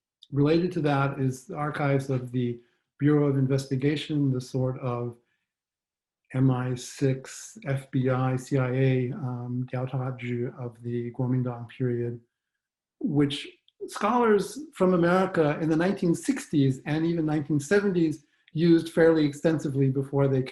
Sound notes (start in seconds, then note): 9.9 speaks faintly